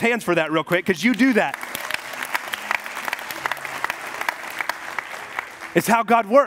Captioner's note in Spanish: congrecation aplaudiendo